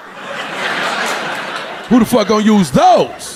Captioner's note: audience laughing